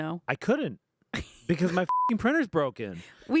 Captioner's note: beep